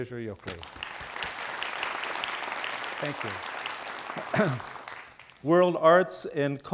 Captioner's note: crowd applauding